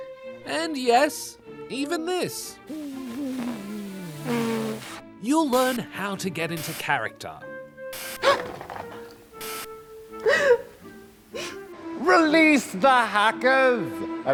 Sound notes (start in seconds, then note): 8.1 gasps; 10.2 cries